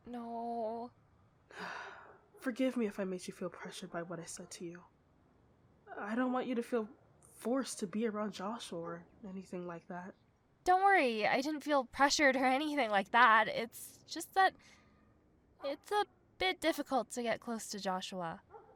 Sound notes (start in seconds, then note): 1.5 joshua's mom sighs